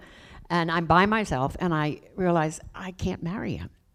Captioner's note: none